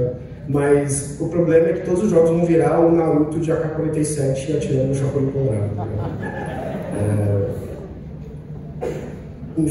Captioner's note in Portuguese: Risadas